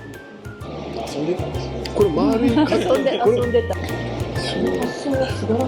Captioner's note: laughs